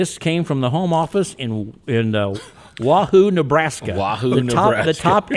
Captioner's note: chuckling